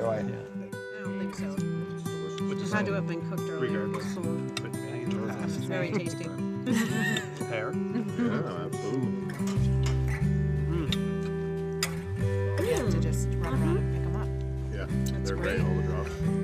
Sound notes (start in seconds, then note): 5.0 chattering continues